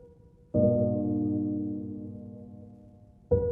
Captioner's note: none